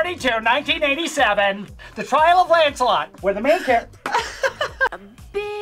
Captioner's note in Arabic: يضحك